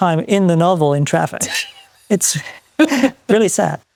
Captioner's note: laughs